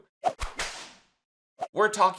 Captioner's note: whip crackles